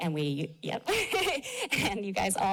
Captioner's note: laughter